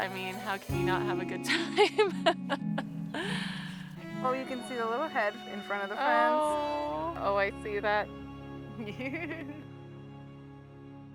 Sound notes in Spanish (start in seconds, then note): 8.9 risas